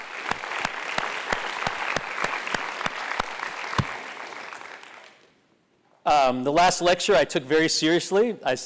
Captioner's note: applause